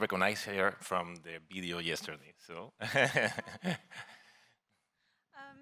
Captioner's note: laughs